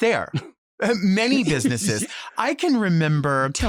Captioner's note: both chuckling